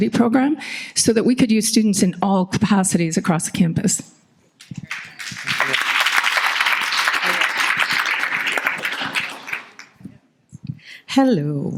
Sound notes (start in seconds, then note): 4.6 audience applauding